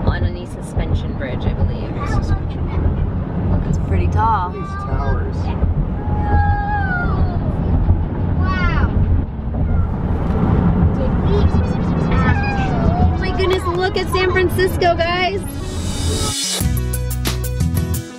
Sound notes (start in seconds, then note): 6.5 shouts of amazement; 10.8 electronic music